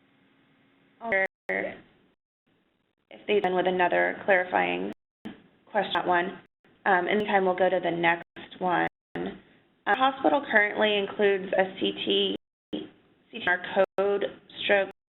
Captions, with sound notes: - [Voiceover] If they've been with another clarifying question for that one. In the mean time we'll go to the next one. Our hospital currently includes STT in our code stroke.